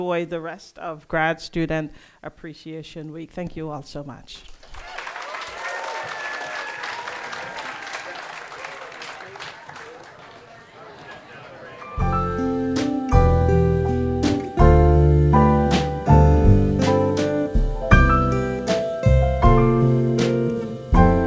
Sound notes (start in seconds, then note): 4.6 audience applauding; 11.9 gentle instrumental music